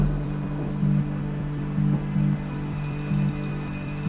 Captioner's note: rain falling